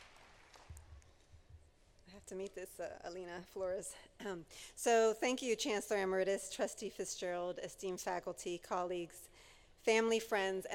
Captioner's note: applause